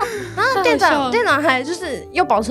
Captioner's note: laughing until tired XD